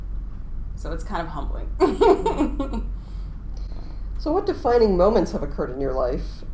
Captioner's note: laughing